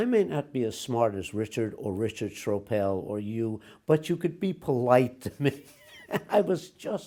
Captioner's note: laughs